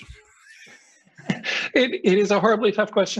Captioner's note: laughing